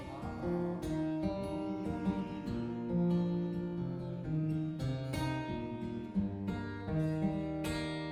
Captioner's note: humming